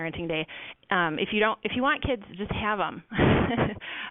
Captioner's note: laughs